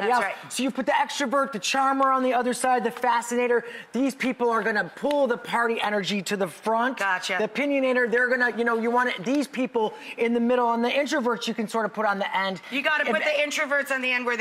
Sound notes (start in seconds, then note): none